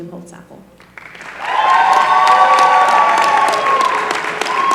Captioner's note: applause